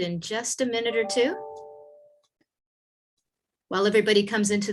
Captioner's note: soft chimes ringing